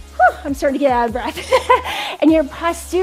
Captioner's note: laughs